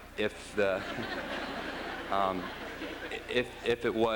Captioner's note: laughter